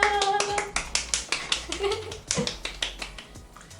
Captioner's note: clap Clap